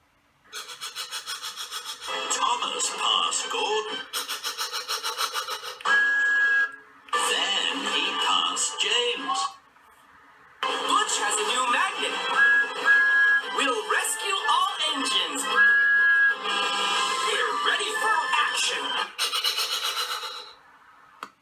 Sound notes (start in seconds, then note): 0.4 engine chuffing; 4.0 engine chuffing; 5.7 thomas tooting; 12.8 thomas tooting; 16.4 butch honking